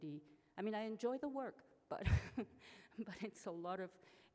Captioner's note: laughs